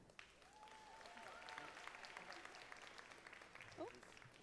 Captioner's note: audience applauding